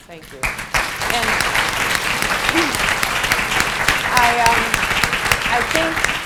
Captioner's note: applause